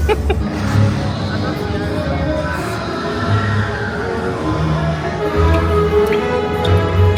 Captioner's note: guests chattering; dramatic music; laughs